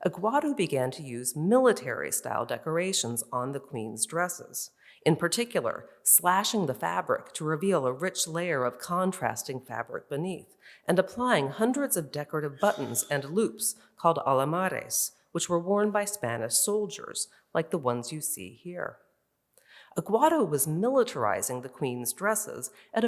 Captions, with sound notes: Aguado began to use military-style decorations on the queen's dresses, in particular, slashing the fabric to reveal a rich layer of contrasting fabric beneath, and applying hundreds of decorative buttons and loops called (in Spanish), which were worn by Spanish soldiers like the ones you see here. Aguado was militarizing the queen's dresses